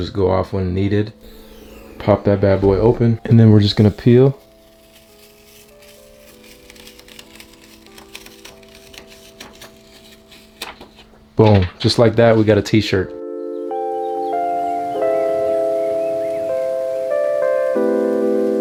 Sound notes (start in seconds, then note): 4.1 peeling sound; 13.3 chill music